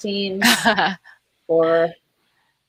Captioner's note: chuckling